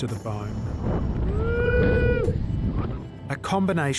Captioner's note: wind howling